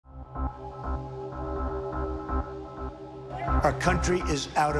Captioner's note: crowd chanting